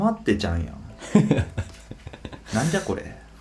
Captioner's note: laughs